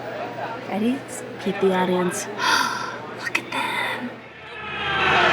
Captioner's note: gasps; cheers, applause